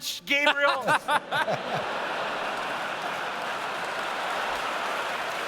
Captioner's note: laughter